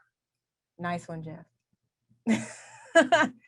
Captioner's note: laughs